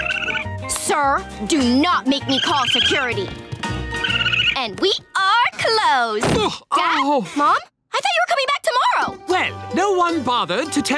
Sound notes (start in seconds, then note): none